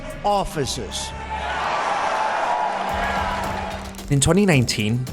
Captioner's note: cheers